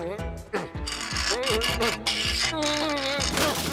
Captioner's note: pipe ratcheting